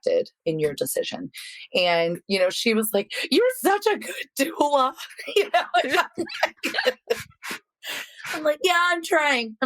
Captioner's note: laughs